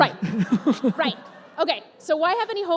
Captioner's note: laughter